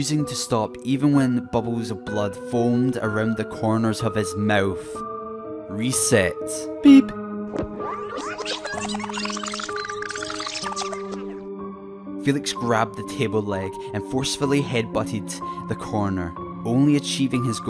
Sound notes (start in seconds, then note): 7.8 beep and Rewinding sounds